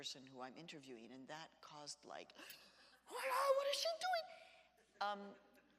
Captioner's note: gasps